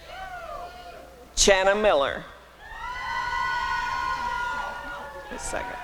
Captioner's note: applause and cheering